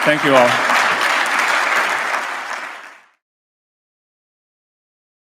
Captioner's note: audience applauds